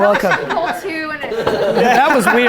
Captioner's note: group laughter